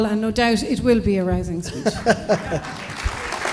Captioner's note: applause